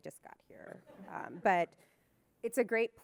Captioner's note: audience laughing